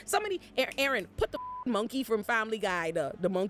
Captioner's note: beep